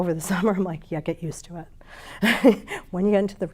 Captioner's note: chuckles